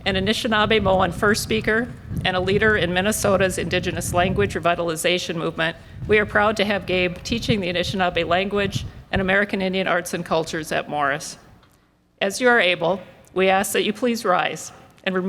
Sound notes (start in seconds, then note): none